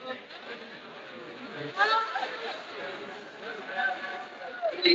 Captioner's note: static crackling